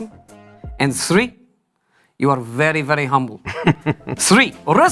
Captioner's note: josé laughs